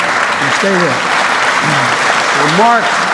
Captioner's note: applause